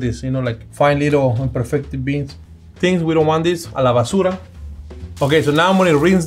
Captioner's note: speaking Spanish